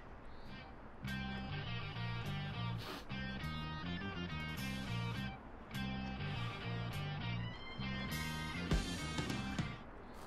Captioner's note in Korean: 경쾌한 휴대전화 벨소리